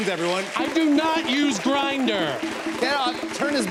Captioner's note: rapid beeping